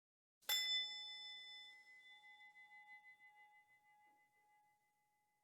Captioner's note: bell chiming